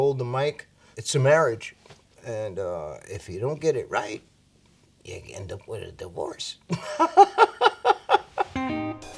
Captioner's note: laughs